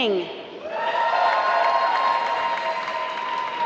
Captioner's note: applause